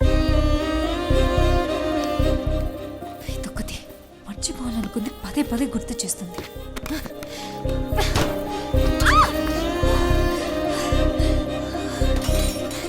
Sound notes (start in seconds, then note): 3.9 irritated